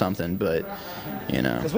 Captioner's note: audience laughing